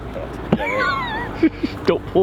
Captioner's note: laughing